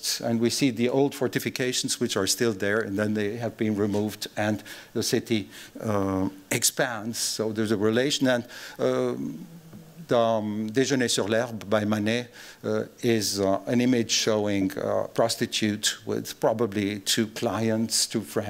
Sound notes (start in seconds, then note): none